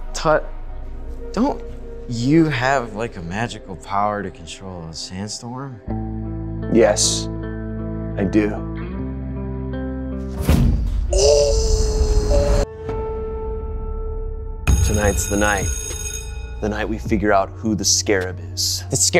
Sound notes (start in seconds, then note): 6.0 sad music; 11.1 Brett groaning; 12.9 sustained piano note; 14.6 bell ringing